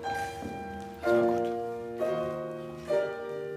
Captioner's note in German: flüstert